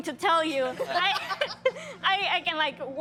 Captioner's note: laughing